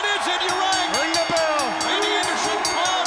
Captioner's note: crowd cheering; bell ringing